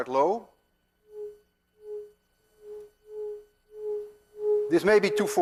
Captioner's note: tube hums medium tone